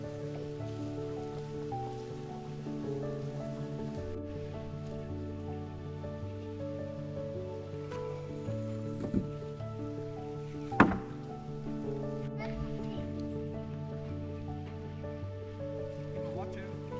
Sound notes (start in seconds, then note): 2.8 water running; 6.6 soft music